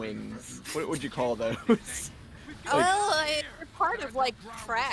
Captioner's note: laughs